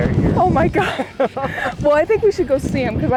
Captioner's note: both laughing